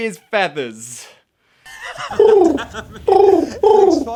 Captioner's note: pigeon coos